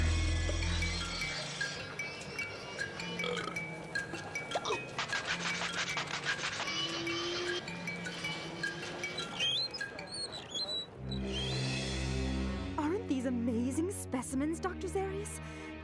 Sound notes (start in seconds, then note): 3.2 belching; 9.3 wheels squeaking